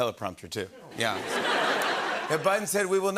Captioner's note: laughter